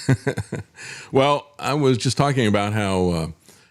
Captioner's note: laughs